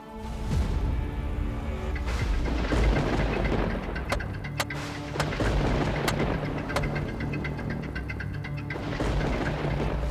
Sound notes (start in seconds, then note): 0.2 pensive music playing; 3.9 hammering nails